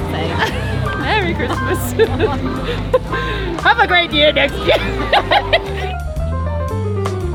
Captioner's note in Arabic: يضحك